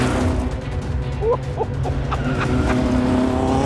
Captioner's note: he chuckles